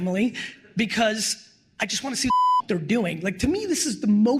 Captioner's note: beep